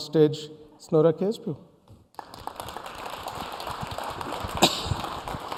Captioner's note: applause